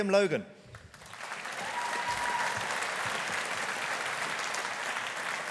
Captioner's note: audience applauding